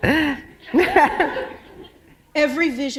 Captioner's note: laughter